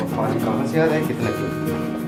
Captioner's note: people Chattering